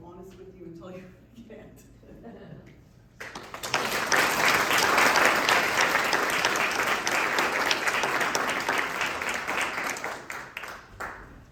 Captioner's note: applause